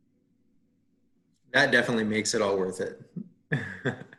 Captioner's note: laughs